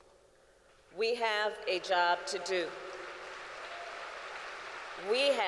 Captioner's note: applause